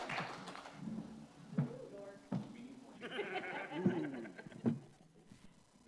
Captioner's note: laughter